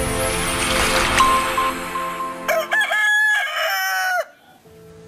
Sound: cock-crow

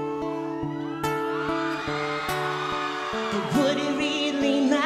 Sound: audience applauding

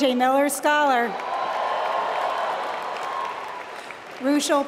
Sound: applause

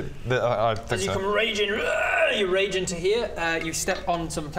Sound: rwarrrr

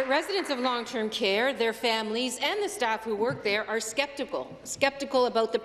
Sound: some Applause

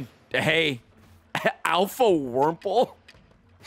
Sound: laughs

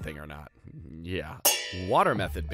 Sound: pans clanging

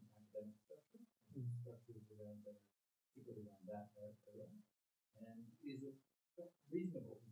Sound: murmurs

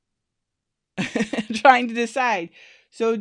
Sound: laughs

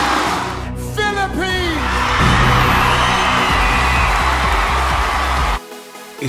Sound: crowd cheering

